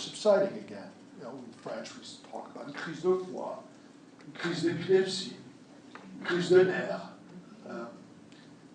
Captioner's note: speaking French